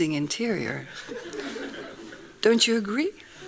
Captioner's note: laughing